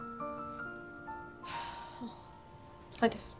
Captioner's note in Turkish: Nefes çekme sesi